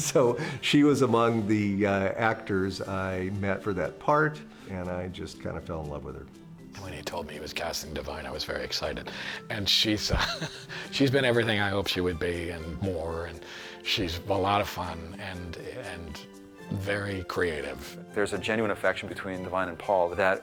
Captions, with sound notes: so she was among the actors met for that part, and just kind of fell in love with her. When he told me he was casting Da'Vine, was very excited. And she's... [chuckles] she's been everything hoped she would be and more. And she's a lot of fun and very creative. There's a genuine affection between Da'Vine and Paul